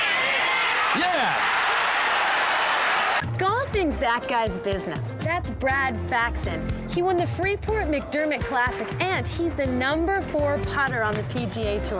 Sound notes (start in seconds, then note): 0.0 cheering